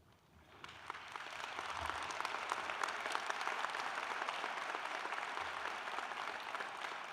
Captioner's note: applause